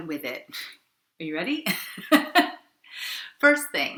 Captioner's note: laughs